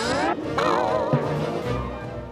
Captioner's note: rope boings